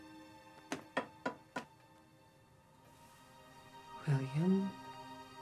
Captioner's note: cane tapping